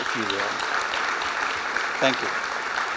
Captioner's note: applause